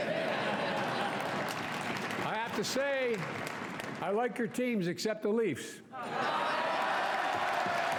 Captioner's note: cheering